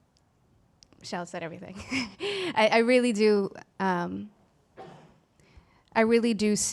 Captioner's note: laughs